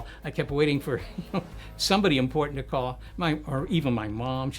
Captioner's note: chuckling